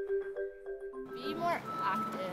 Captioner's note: construction noise in the background